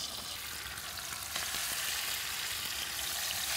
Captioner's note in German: Brutzeln